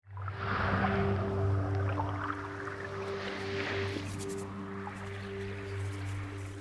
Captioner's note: gentle music; water burbling